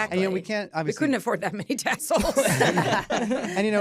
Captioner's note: laughter